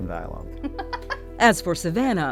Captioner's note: chuckles